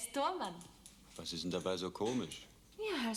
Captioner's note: speaking german